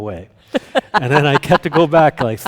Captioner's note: laughing